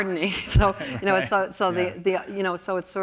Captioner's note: laughs